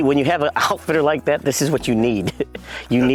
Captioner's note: chuckles